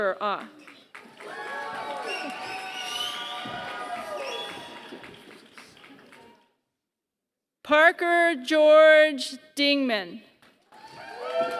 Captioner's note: applause; applause